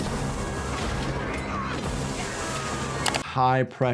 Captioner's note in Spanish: música dramática; anciana gritando